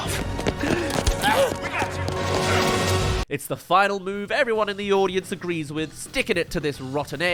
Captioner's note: gasp